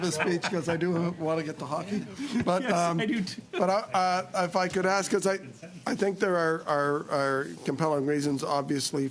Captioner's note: laughter